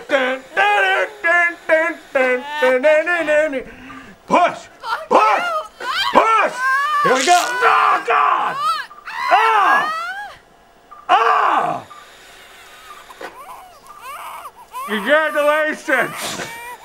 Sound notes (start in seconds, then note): 9.1 woman screaming; 13.2 baby crying